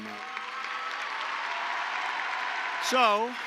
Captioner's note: applause